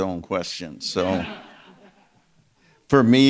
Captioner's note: audience members laughing